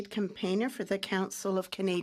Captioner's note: speaking French